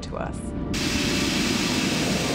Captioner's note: <i> steam hissing</i>